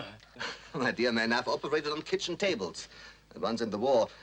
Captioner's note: chuckles